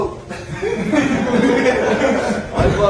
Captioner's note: chuckles